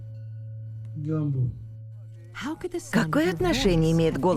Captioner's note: man speaking native language in low-pitched voice; man speaking native language in medium-pitched voice